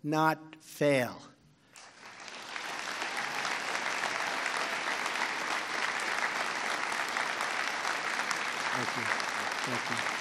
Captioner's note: applause